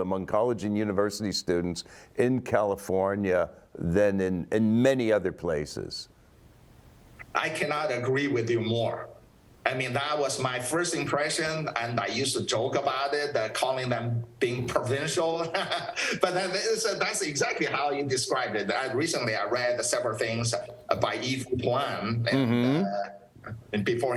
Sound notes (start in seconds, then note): 15.5 laughs